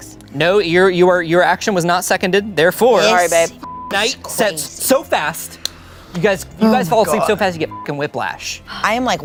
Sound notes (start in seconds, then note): 3.6 beep; 7.7 beep